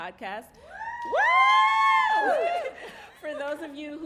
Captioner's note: cheering